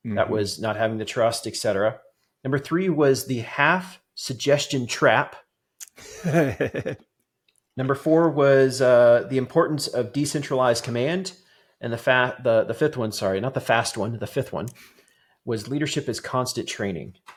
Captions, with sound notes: that was not having the trust, et cetera. Number three was the half suggestion trap. (laughing) Number four was the importance of decentralized command and the fifth one, sorry, not the fast one, the fifth one was leadership is constant training.